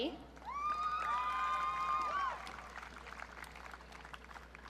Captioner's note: audience cheering